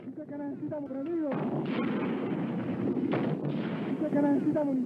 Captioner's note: explosions